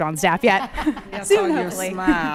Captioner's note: attendees laughing